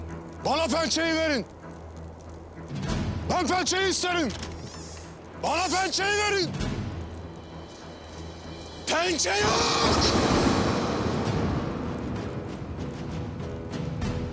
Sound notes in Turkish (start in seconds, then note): 4.6 Kapı açılma sesi